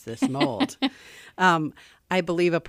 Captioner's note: laughs